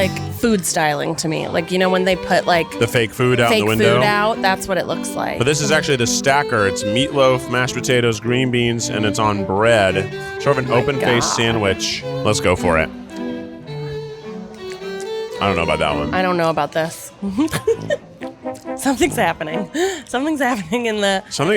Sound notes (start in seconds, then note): 13.4 gentle upbeat music; 17.2 giggles